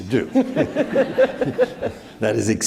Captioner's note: all laughing